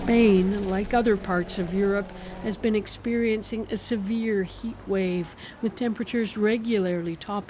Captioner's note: sirens